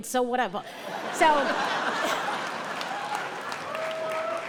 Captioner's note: audience laughing